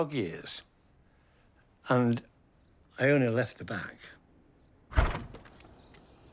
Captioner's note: door opens